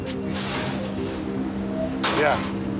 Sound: metal clanking

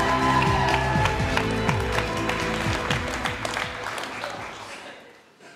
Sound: attendees cheering and applauding

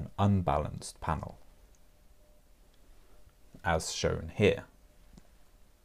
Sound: pause

